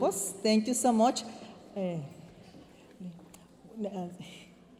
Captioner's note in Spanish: hablando en inglés